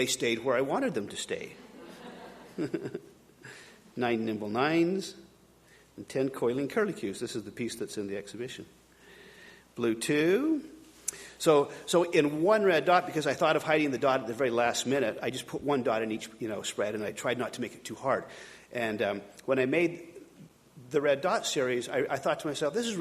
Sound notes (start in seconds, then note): 1.6 audience laughing